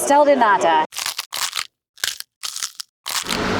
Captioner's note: crunching sounds